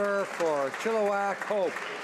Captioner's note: speaking Italian